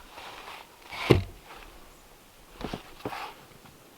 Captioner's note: log thumps